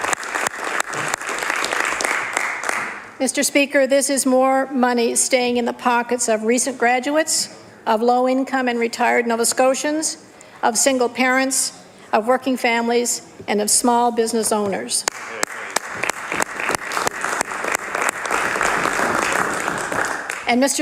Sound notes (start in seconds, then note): 3.6 applause